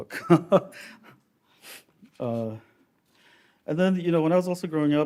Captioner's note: laughs